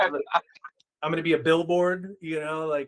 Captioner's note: laughing